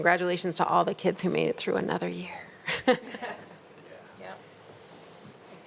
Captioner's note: chuckles